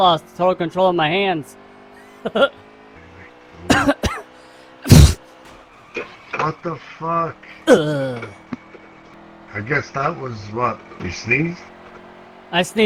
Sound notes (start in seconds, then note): 3.5 laughs; 3.6 coughs; 4.8 sneezes; 6.0 car screeches